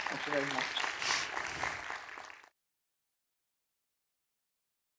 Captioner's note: applause